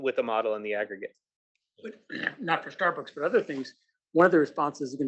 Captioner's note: cough